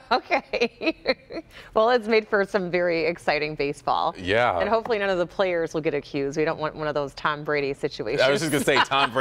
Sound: laughter

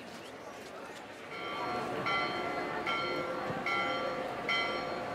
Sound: bell Sound

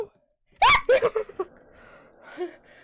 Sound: shrieks

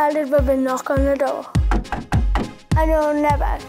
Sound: knock at door

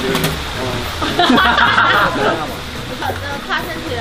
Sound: haha

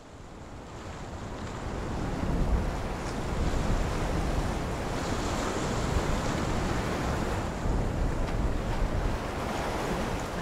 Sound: waves crashing

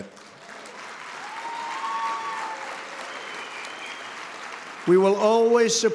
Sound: applause

